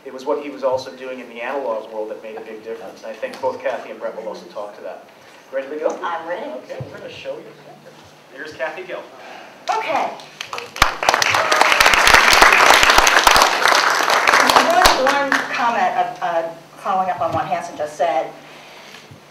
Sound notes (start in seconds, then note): 10.2 applause